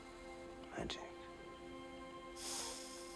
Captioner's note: sniffing